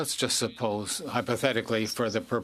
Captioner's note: speaking French